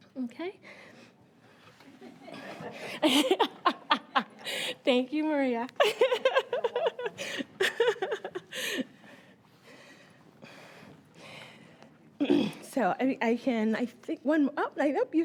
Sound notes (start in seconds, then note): 1.2 laughing